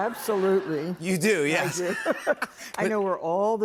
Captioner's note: both laugh